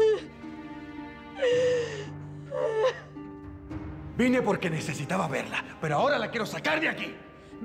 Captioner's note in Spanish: Sollozos